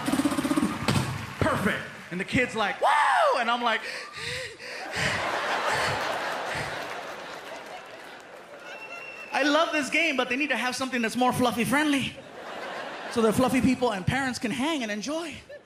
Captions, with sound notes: "Perfect." And the kid's like, "Whoo!" And I'm like... [panting] I love this game, but they need to have something that's more fluffy-friendly, so that fluffy people and parents can hang and enjoy.